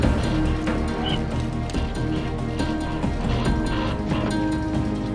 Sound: creature chirping

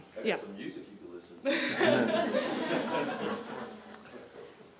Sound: laughing

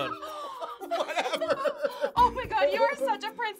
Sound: laughs

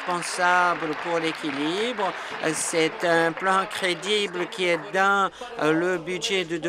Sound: applause

